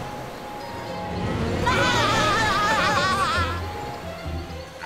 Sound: laughing

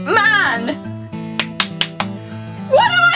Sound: claps

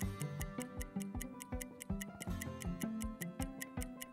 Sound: clock ticking; pleasant music continues

